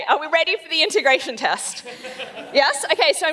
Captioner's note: laughs